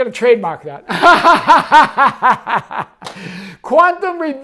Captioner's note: laughing